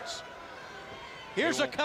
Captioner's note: crowd chatter